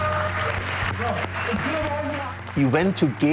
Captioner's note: cheering and applauding